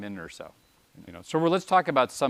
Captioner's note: pause